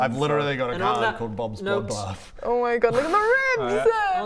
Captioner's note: none